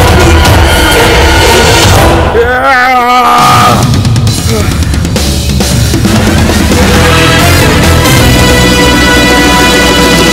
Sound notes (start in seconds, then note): 2.4 Puchki grunts